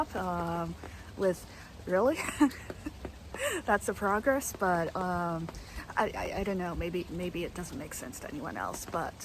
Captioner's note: laughing